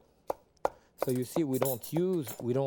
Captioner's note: knife chopping